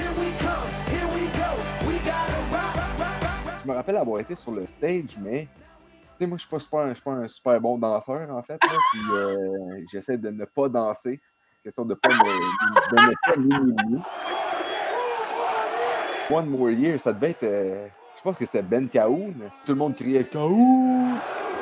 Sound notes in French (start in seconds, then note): 14.2 rire; 15.2 acclamations